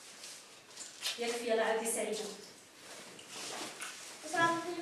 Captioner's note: Arabic spoken audio